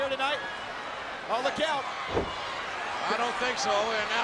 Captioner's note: audience cheering